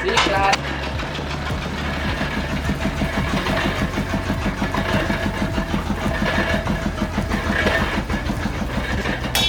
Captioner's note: machine sounds